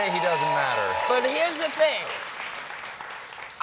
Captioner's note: cheers and applause